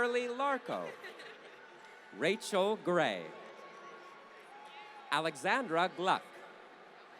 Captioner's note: applause; laughter